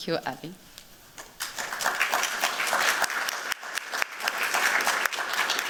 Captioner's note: applause